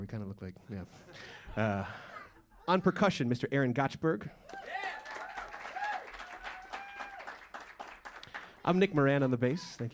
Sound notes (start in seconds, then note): 1.2 laughter; 4.4 cheers and applause; 4.4 saludos y aplausos